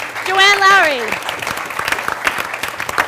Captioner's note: applause